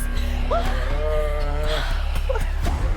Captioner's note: Lee groans